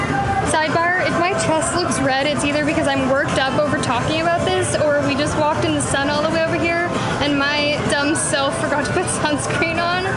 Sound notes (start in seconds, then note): none